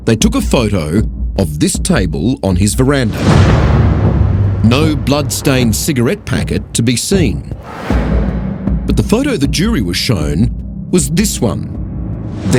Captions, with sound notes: they took a photo of this table on his verandah. (banging) No blood stained cigarette packet to be seen. But the photo the jury was shown was this one.